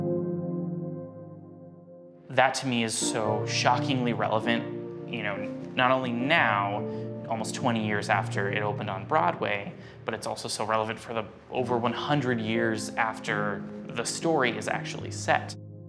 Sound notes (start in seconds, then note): none